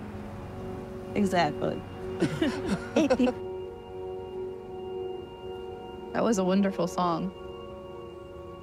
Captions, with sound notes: - Exactly. (both chuckling) - That was a wonderful song.